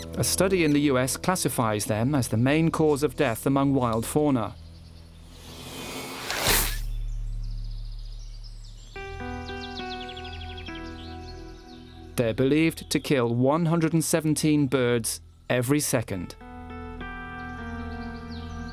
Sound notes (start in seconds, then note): 5.2 dramatic music; 5.4 bird yelps; 9.2 somber music